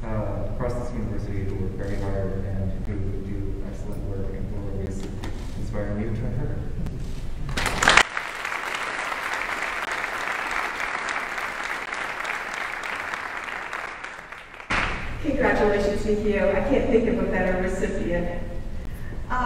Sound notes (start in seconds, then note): 7.5 audience applauding